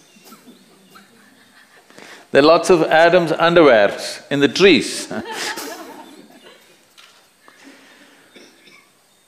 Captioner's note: laughs; laughter; 笑聲